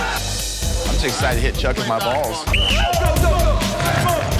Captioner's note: whistle blows